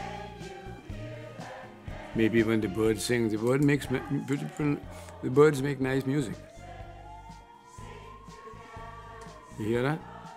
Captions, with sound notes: Maybe when the birds sing, the birds make nice music. [SIREN PASSES BY OUTSIDE] You hear that?